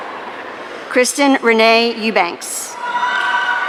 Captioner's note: audience cheering